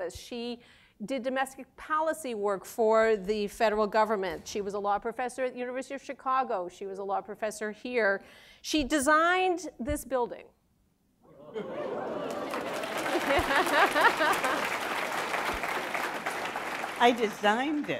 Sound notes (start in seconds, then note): 11.8 applause